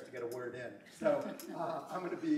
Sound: laughter

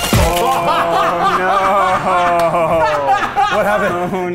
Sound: upbeat electronic music; men laughing

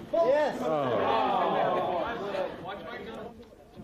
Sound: groaning

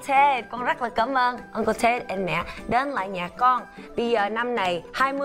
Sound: speaking foreign language

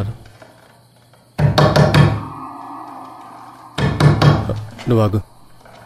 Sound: pounding on door

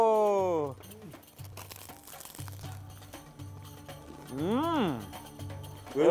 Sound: bread crunching

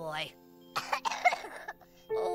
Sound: coughs

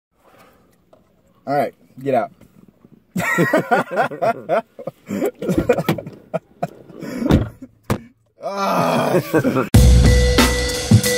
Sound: laughing

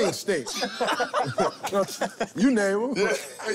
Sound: laughter

